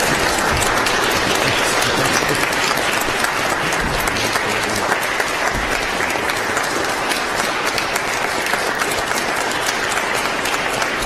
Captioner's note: applause